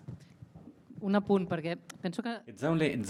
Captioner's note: speaks in a foreign language